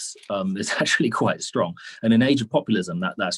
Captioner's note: chuckles